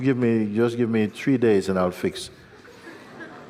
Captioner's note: laughter